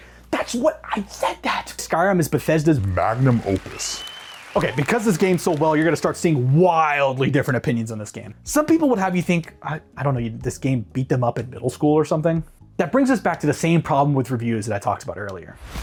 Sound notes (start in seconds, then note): 2.8 cheering